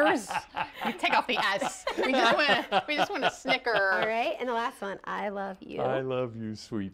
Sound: laughter

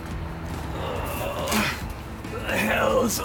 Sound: Reiko Groans

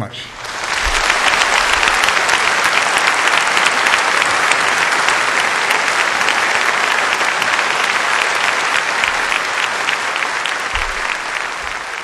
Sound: applause

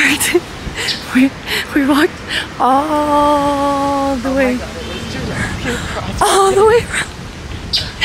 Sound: laughing

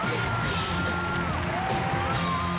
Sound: cheers and applause

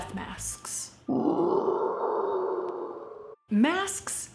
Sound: growling

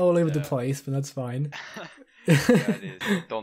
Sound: laughs

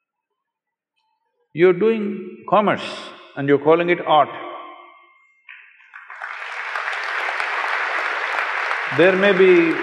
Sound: applause

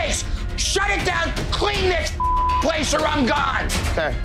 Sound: beeping

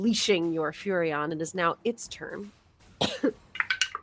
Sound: coughs; dice clatter

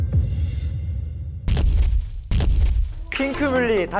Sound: with heavy footsteps

